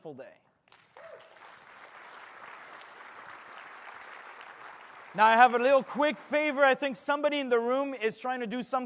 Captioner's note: applause